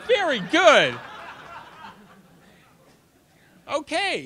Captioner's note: audience laughter